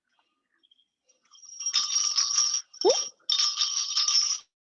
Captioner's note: sound of bells